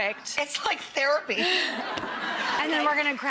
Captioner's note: laughing